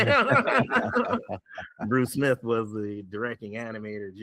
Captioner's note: laughs